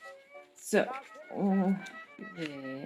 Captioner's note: weird mouth noises